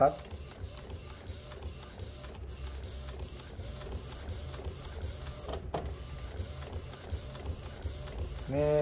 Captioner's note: printer machine sound